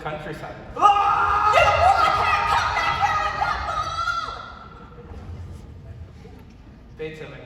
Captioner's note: he Screams